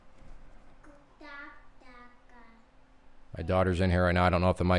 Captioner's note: child speaking